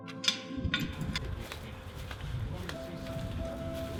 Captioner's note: gate chinking